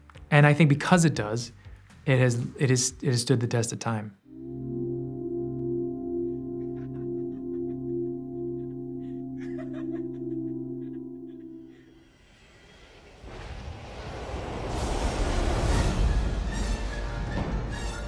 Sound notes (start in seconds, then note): 6.3 laughs; 14.7 intense music begins